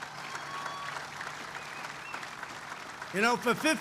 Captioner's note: applause